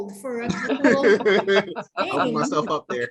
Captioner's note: laughter